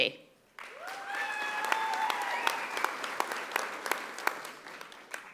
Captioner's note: audience applauding